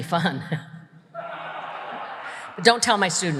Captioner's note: audience laughs